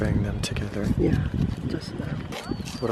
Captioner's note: voiceover